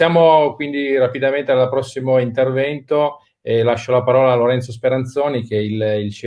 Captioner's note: speaking in foreign language